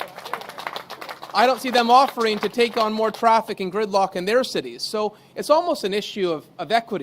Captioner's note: applause